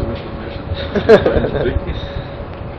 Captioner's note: Gülüyor